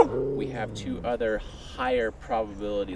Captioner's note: dog barking